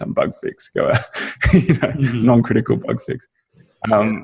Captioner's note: laughs